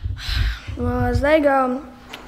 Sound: sighing

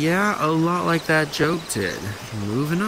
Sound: crickets chirping

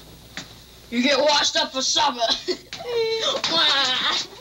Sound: chuckles

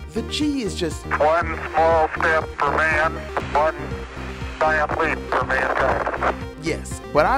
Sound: Neil Armstrong's voice

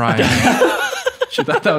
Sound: man laughing

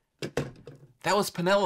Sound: phone hangs up on receiver

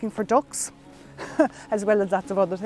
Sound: laughter

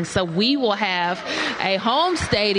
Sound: applause

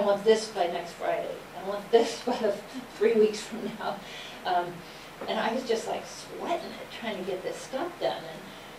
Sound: laughs

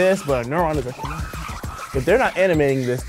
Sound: marker sounds

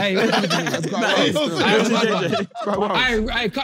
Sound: everyone laughing

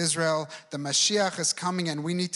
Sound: speaks in foreign language

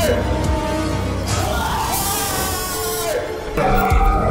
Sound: screams his lungs out

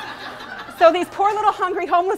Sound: laughing

